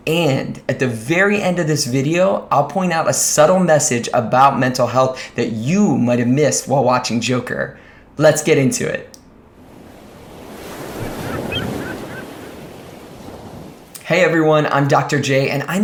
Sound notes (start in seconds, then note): 9.4 waves lap; 10.4 seagulls cry